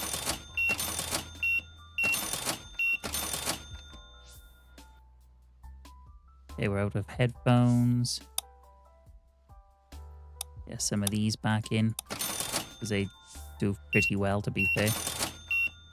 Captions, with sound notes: (beeping) They were out of headphones. Yeah, some of these back in, because they do pretty well, to be fair.